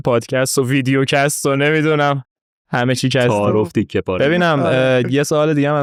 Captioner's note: laughs